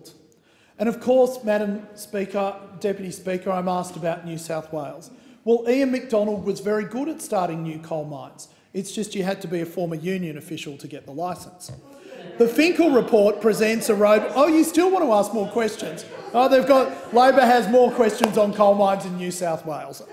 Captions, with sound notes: And of course, Madam Speaker, Deputy Speaker, I am asked about New South Wales. Ian Macdonald was very good at starting new coalmines; it's just that you had to be a former union official to get the licence. The Finkel report presents a— (Opposition members interjecting) You still want to ask more questions? Labor has more questions on coalmines in New South Wales